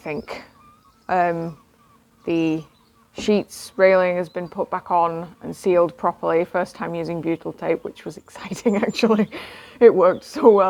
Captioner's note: laughs